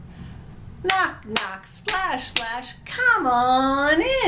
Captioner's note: claps